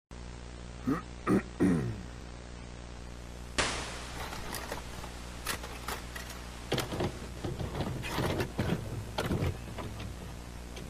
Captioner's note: grunting, as a VHS Tape is inserted and playing